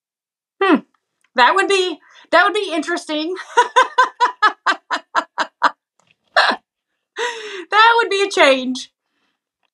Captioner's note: laugh